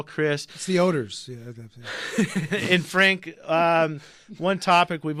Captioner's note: laughs